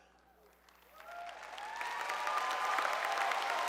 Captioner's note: applause